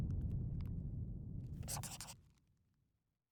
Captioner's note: scribbling